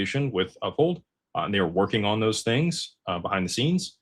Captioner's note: none